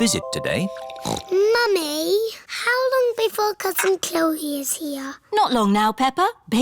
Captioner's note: snorts